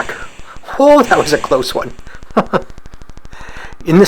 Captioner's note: chuckles